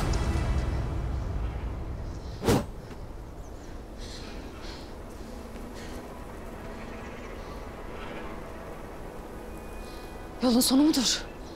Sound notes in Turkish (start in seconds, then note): 2.4 Kılıç sesi